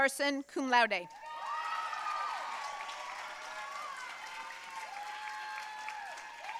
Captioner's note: audience cheering and applauding